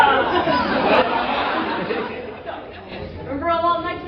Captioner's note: laughter